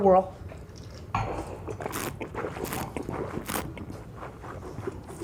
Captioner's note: slurping and swishing